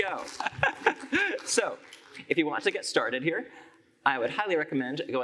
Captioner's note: laughs